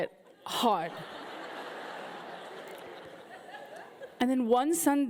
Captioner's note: audience laughing